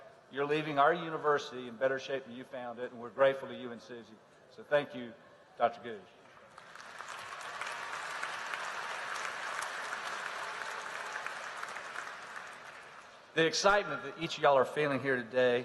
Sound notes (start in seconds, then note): 6.3 applause